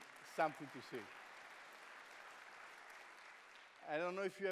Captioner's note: applause